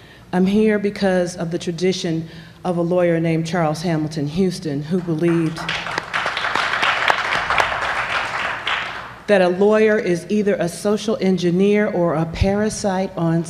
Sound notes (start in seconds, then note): 7.2 applause